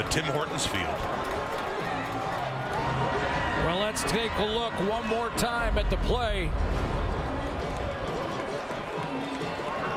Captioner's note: cheering and Applause